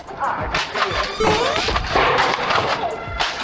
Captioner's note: boing sound effect; battle sounds continue